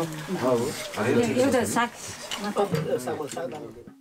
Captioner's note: indistinct conversations